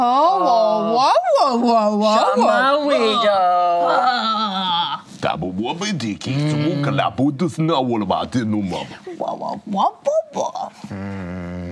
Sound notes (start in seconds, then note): 0.2 excited grunting; 5.7 grunting; 9.3 grunting